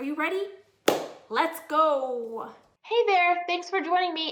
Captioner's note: claps